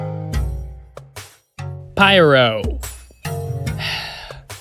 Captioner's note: sigh